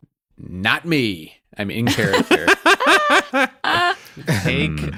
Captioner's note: laughs